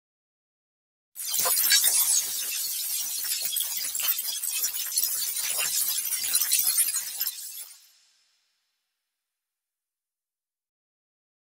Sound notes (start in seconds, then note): 1.2 sound of robotic mechanism